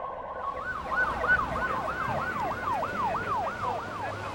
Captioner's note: sirens blaring